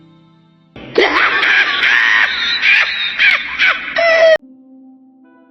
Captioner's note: insert Hyena Laughter